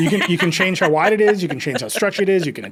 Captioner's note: laughing